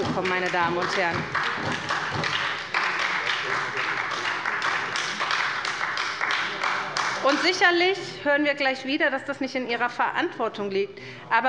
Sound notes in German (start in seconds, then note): 1.9 Beifall bei der SPD